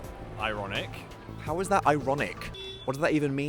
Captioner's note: horn blasting